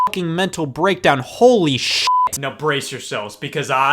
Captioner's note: beep